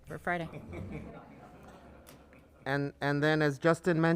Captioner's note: panelists laughing